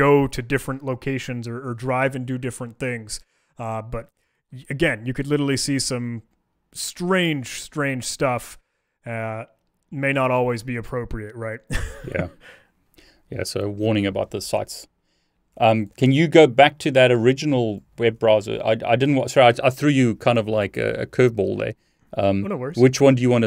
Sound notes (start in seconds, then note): 11.6 chuckling